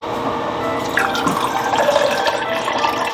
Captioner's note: water running